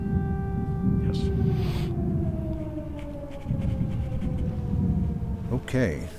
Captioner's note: sirens blaring